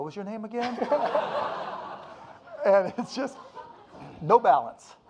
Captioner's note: audience laughing